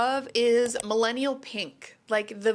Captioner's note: mouse clicks